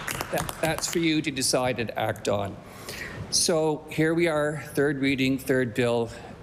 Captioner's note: applause